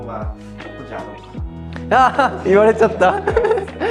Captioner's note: laughs